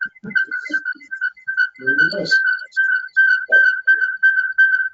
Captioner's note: feedback screeching